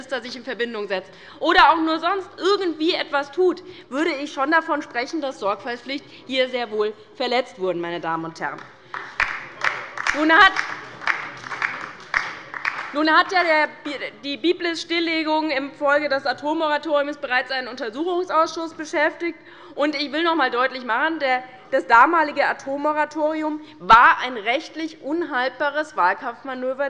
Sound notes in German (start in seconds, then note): 8.5 Beifall bei Abgeordneten der LINKEN und der SPD